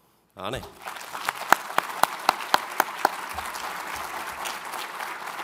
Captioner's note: audience applauds